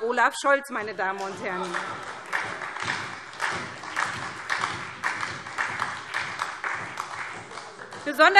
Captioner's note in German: Beifall SPD - Lachen CDU und BÜNDNIS 90/DIE GRÜNEN